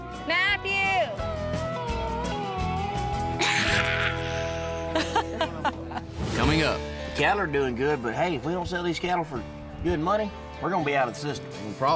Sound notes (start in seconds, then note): 3.4 laughs